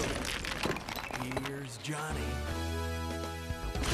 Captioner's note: mimics Jack Nicholson; dance music plays